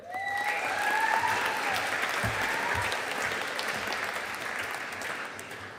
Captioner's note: audience applauding